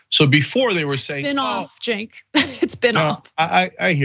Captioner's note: laugh